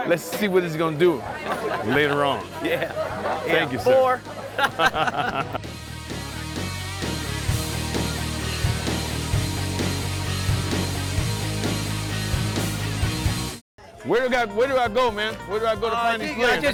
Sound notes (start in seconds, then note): 5.4 laughter